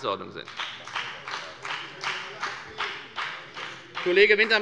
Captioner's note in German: Beifall bei der FDP - Zuruf des Ministers Axel Wintermeyer